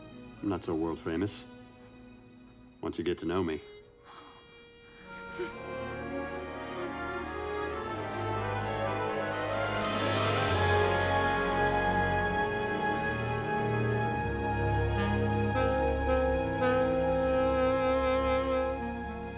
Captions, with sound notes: I'm not so world-famous... once you get to know me. (SIGHS) (ROMANTIC MUSIC CONTINUES) (MOANS)